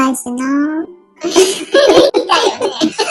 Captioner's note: laughs